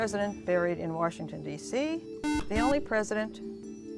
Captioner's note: buzzer